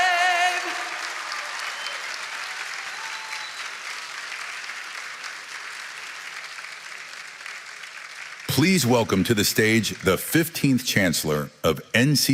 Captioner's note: cheering and applause